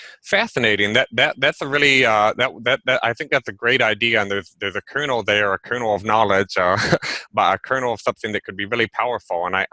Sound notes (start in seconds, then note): 6.8 chuckles